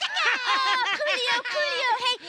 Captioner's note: laughing